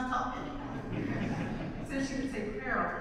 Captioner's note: audience laughs